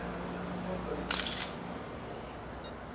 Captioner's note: shutter clicks